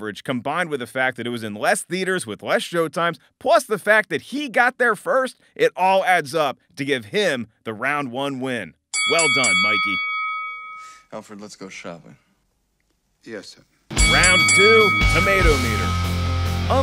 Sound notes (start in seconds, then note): 9.0 bell clangs; 13.9 bell clangs